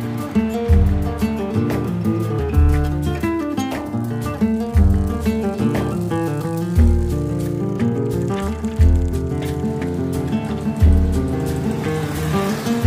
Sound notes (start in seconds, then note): 5.0 bicycle chain tinkling; 10.1 gentle music